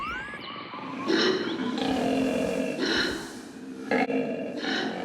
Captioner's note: koala bellowing